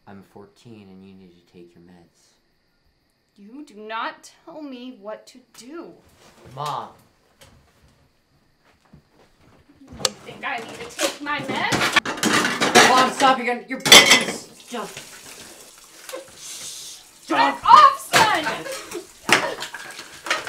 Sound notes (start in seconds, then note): 13.8 dishes slamming; 16.0 water running